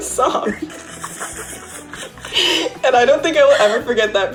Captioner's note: all laughing